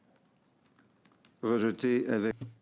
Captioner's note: speaking French